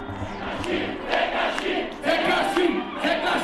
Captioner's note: crowd chanting "Tekashi!"